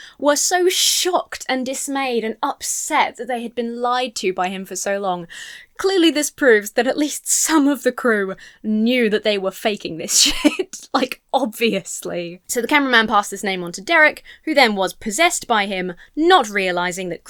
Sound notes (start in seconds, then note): 10.1 laughs